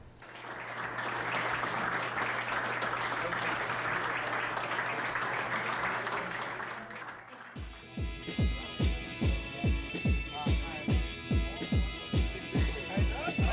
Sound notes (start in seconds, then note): 3.4 group applauding; 10.7 upbeat music